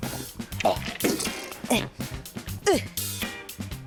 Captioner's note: grunts